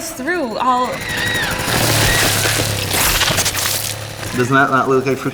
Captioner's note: screams